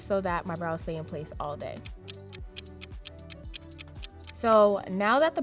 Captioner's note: clock ticking